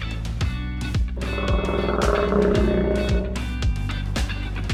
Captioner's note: crocodile growling; upbeat music